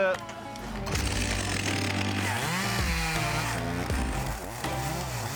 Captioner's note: chainsaw buzzing